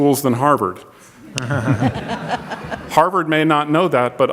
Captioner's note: audience laughs